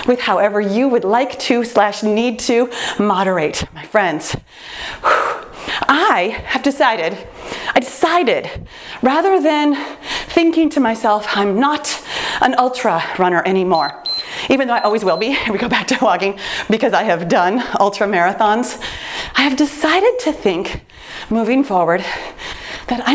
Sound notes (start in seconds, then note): 5.7 sighs; 13.7 timer beeps